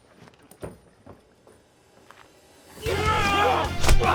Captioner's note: loud grunting